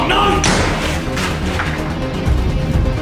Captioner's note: gunshot